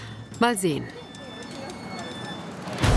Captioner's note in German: Türsignal; Treibende Musik